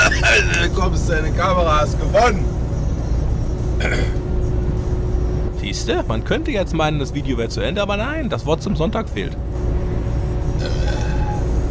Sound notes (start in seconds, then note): 10.6 burp